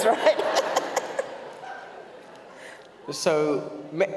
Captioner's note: audience laughs